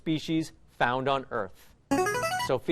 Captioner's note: chiming